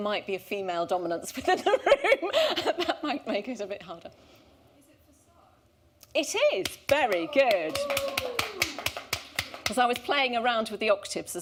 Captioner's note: laughter